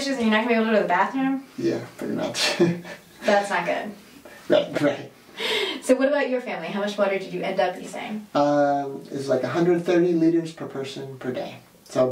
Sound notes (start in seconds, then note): 2.3 laughs